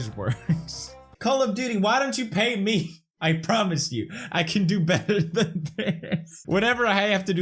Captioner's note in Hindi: हंसी